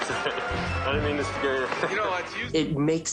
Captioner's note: laughs